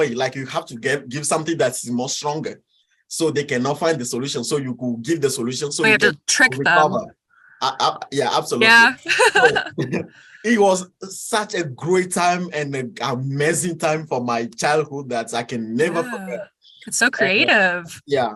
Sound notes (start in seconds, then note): 9.2 chuckles; 9.6 laughs